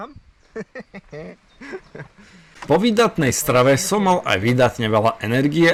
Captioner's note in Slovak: smiech